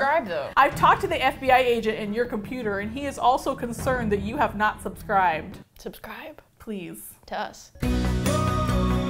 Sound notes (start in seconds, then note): 5.5 whispers; 7.8 upbeat music